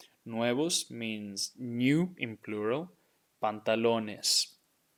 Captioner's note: speaking in Spanish